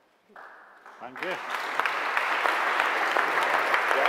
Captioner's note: applause